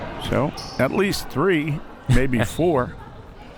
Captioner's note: laughs